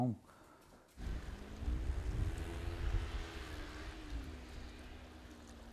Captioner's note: snowmobile whirring